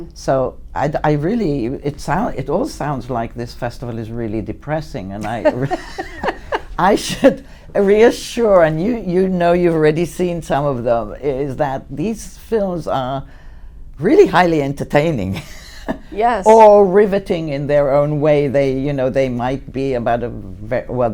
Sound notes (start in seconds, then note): 5.2 laughing